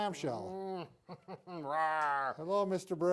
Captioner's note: growling noises